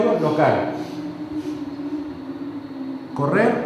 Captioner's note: bus passes